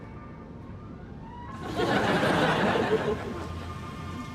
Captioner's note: audience laughs